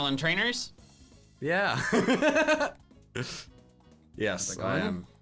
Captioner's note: laughs